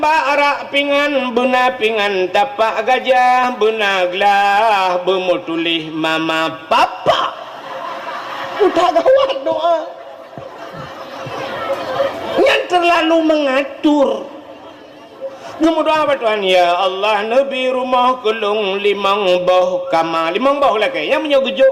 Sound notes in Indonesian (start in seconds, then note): 6.8 tertawa